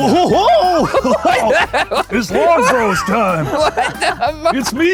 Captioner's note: laughs